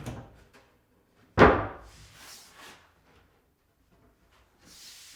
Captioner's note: wood thuds